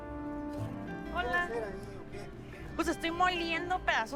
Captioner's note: speaking spanish